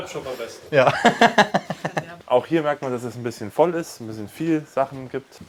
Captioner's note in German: gelächter